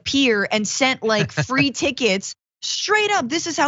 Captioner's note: laugh